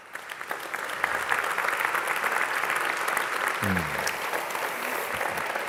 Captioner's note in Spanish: aplausos